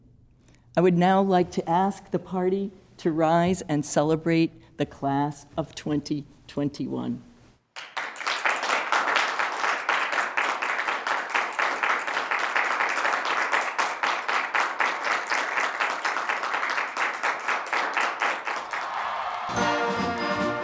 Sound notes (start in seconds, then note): 7.7 applause